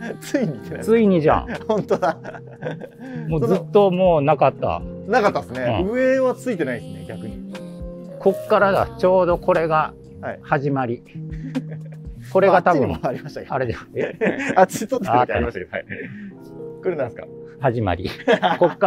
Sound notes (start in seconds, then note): 1.4 laughing; 13.7 laughing